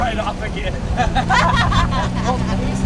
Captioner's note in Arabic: ضحك